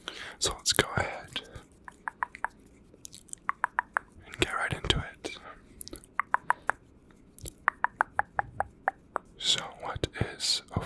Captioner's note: tongue clicking